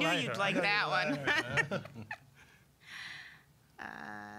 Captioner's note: all laughing